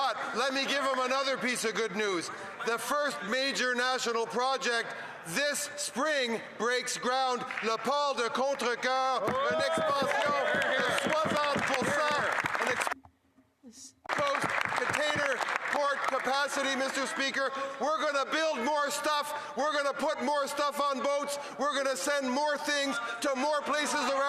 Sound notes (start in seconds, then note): 15.5 speaking French